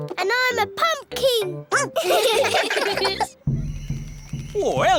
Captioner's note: all giggling; barks